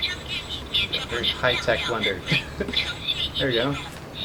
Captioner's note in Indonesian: tertawa